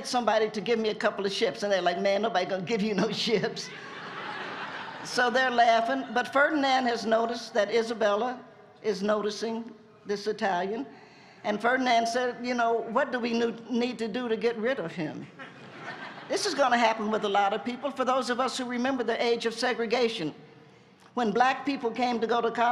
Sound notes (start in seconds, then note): 3.6 laughter